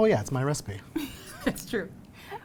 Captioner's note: laughs